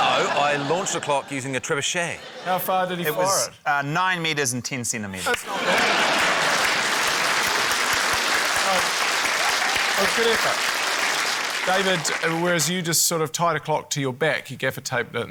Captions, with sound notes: - No, I launched a clock using a trebuchet. - How far did he fire it? - It was, uh, 9m and 10cm. - That's not bad. (CHEERING, APPLAUSE) That was a good effort. David, whereas you just sort of tied a clock to your back. You gaffer taped it,